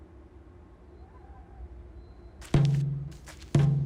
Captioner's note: distant police siren